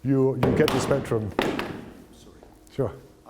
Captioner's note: bangs